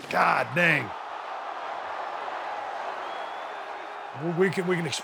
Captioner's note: crowd exclaims